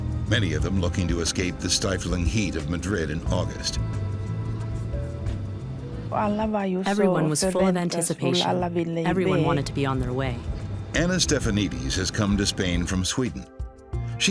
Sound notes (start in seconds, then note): 4.2 gentle suspenseful music; 6.1 speaking foreign language